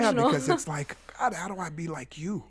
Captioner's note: laughs